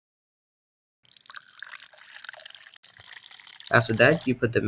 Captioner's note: liquid pours